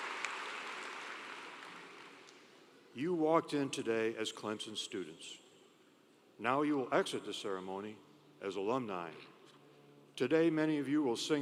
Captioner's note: applause